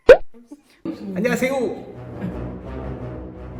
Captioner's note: in Korean